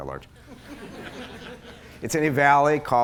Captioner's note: laughter